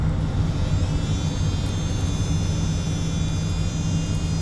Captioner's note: vacuum buzzing